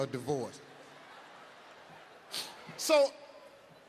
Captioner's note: audience laughs